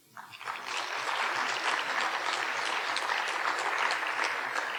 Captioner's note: audience applauding